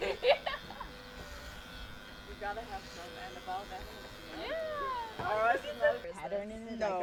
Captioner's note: more reassurance, laughter in background; buzzing, small talk